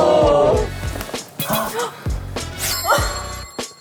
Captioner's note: ending pose trait: Heavy breathing